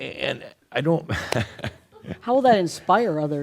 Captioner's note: chuckles